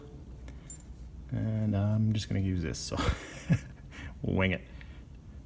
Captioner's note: chuckles